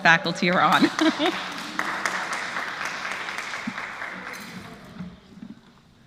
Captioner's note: applause; laugh